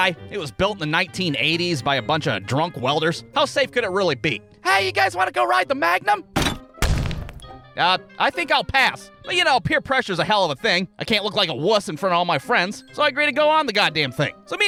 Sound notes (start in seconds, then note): 6.4 thud!